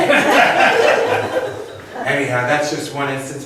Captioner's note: laughs